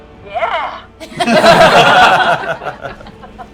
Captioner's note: laughter